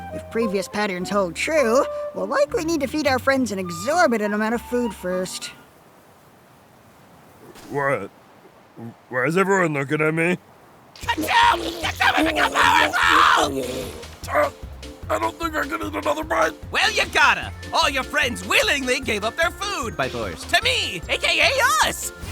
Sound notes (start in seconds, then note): 14.3 struggling food noises